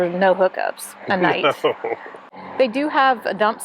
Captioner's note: laughing